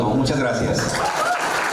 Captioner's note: aplause